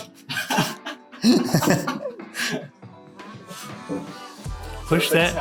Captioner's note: laughing